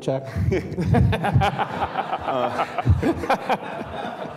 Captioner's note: all laughing